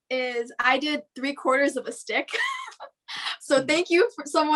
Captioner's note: laughs